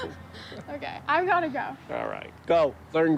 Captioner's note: laughing